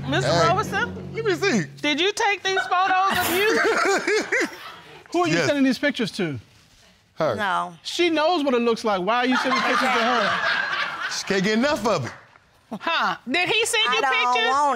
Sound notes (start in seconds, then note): 2.5 laughs; 9.3 audience laughs